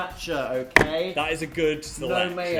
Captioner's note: jar clinking; jar thumping